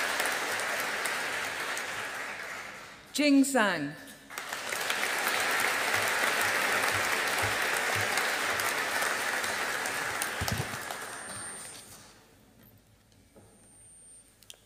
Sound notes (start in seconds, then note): 4.3 audience applauding